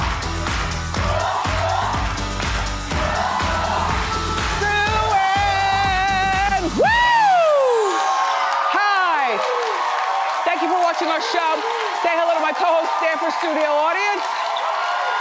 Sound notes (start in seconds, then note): 7.8 audience applauds; 14.9 audience cheers